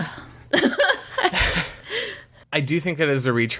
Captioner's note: laughs